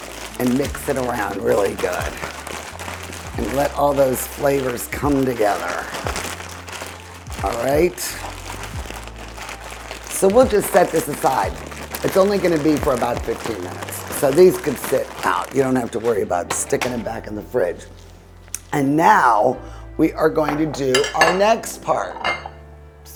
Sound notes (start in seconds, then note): 5.8 bag smashing